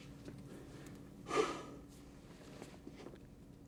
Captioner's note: sighs